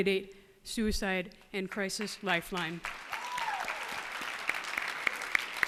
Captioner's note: cheers and applause